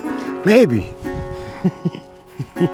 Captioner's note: chuckles